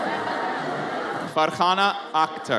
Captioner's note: audience chattering